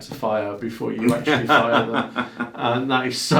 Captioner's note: laughing